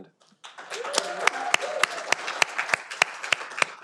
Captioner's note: audience applauding